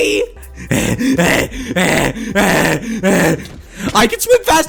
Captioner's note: running.ogg